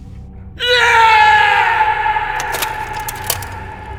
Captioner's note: agonised Scream